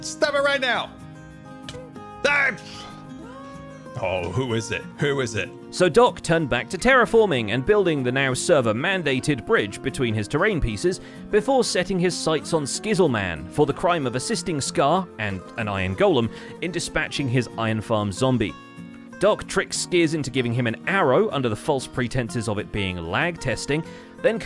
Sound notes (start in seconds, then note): 3.9 sighs